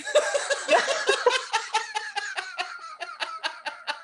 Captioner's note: laughter